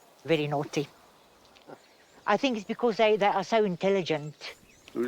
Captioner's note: none